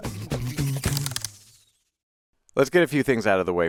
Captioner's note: keys clacking